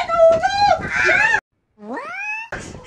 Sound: scream

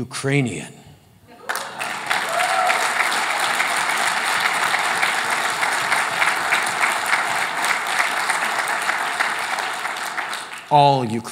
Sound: applause

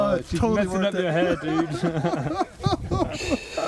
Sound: laughing

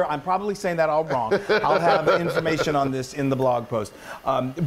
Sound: laugh

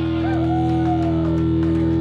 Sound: cheers

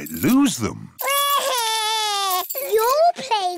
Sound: crying

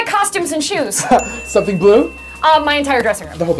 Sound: ding

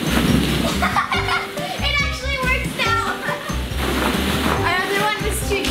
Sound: laughs

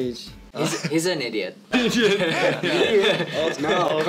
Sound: laughs

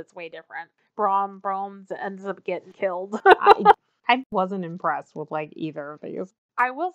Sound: laughs

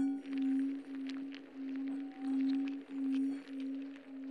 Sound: insects scuttling

